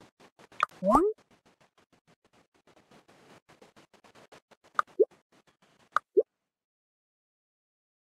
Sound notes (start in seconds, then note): 0.6 balloon Sound; 4.8 clicking sounds